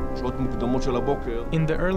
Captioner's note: speaking in foreign language